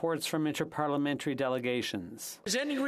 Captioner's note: speaking French